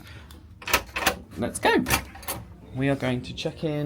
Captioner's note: latch clicks